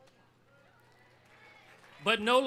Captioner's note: audience cheering